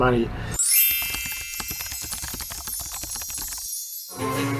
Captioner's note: chiming bells